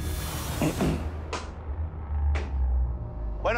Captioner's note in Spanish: Carraspea